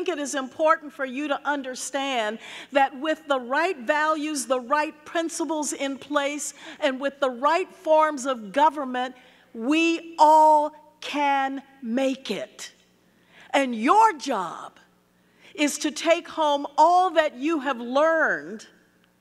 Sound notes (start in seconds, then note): none